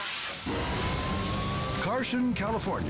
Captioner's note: siren wailing